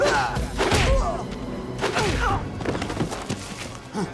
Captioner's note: blows thudding